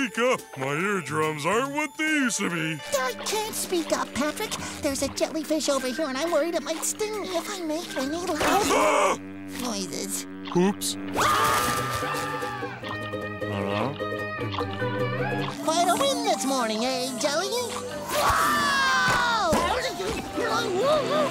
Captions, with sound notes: My eardrums aren't what they used to be. I can't speak up, Patrick. There's a jellyfish over here, and I'm worried it might sting me if I make any loud-- [screaming] -Noises. -Whoops. [screaming] Quite a win this morning hey jelly? [screaming]